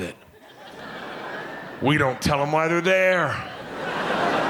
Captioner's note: audience laughing